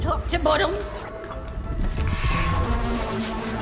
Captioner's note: whooshing; exhales